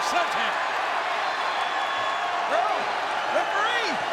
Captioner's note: applause